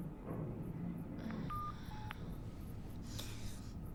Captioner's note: groans